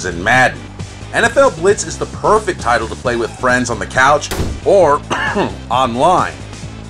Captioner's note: cough